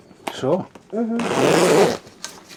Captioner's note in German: auf Schweizerdeutsch